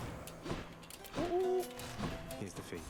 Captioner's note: monkee noises